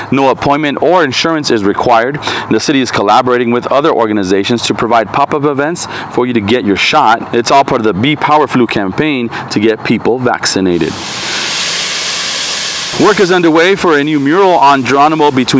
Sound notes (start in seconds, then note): 10.9 water jets